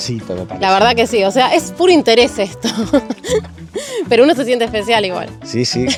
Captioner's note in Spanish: risas